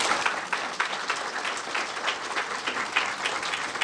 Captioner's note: applause